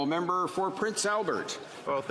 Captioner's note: speaking French